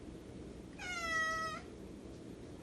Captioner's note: rico meows